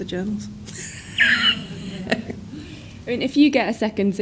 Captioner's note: wheezes